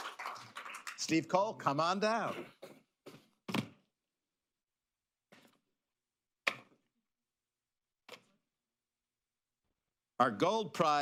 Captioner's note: applause